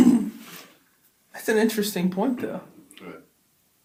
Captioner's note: laughs